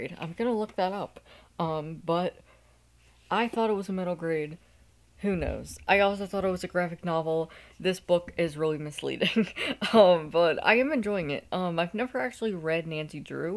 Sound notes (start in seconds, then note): 9.3 laughing